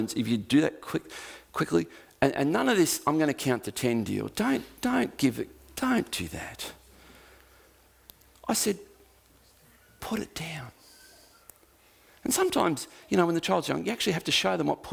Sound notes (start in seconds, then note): 10.0 quietly